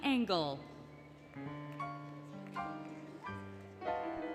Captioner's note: applause, Music